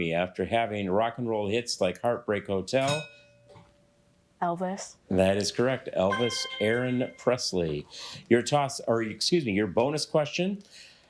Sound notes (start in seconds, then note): 2.9 bell rings